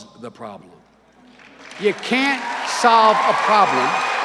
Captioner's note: cheering and applause